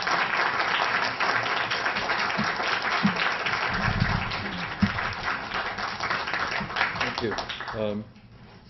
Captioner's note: applause